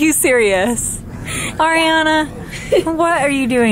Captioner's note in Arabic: تضحك